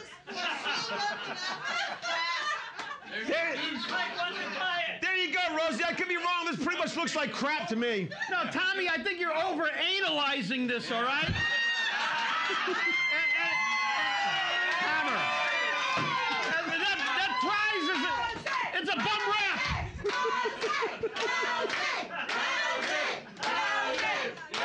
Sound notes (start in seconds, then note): 0.0 audience shouting and laughing; 11.6 audience laughing; 13.0 cheers and applause; 15.8 gavel knocks; 18.9 laughing; 18.9 audience chanting, "Rosie"